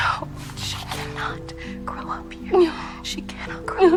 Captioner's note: whispering